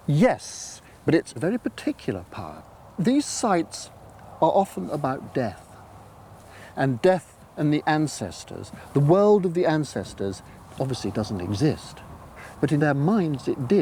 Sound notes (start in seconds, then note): none